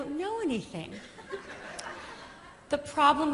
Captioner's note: laughter